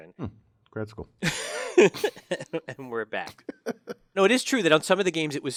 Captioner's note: laugh